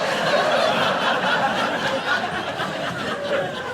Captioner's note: audience laughing